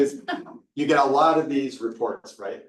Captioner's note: participant laughing